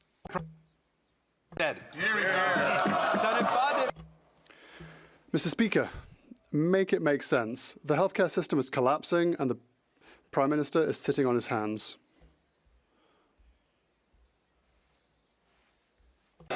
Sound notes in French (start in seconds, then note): 4.4 voix de l'interprète